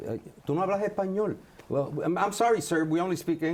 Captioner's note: speaks Spanish